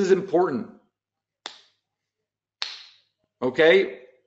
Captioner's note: snapping fingers